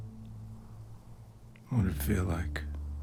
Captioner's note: wind howling